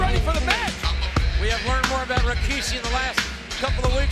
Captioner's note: laugh